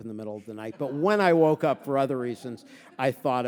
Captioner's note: audience laughing